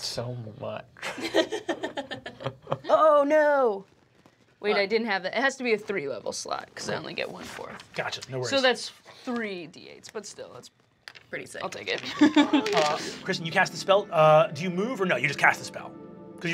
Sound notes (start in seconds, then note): 1.1 laughing